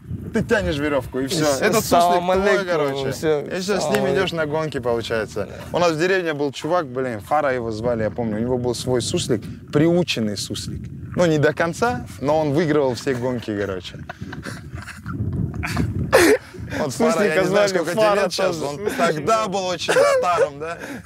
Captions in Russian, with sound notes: ты тянешь верешвку, и всё. Этот суслик твой короче. И всё, с ним идешь на гонки, получается. У нас в деревне был чувак, блин. Фара его звали, я помню, у него был свой суслик. Прирученный суслик. Ну, не до конца, но он выигрывал все гонки короче. (смеются) Фара, я не знаю сколько тебе лет сейчас. Он тогда был очень старым, да?